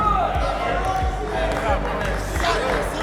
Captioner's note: team chattering